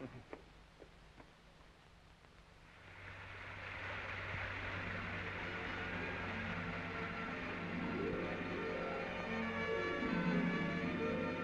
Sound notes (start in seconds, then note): 3.1 suspenseful music; 3.1 water splashing